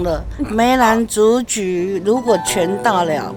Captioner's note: laughs